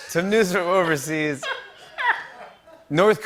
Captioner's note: laughs